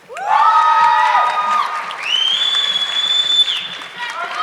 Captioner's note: audience clapping